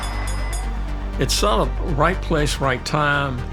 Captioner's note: bell dinging; crowd cheering